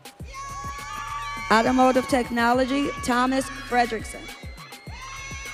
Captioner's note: audience cheering